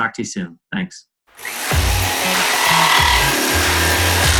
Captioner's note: saw buzzing